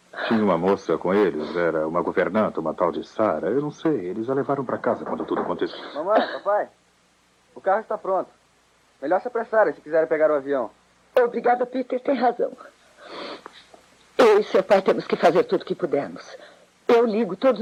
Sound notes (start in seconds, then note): 5.0 knocking